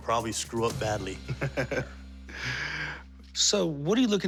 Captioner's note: laughs